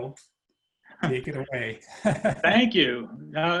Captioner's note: laughs